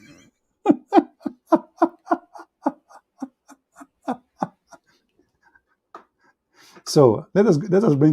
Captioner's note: Ketawa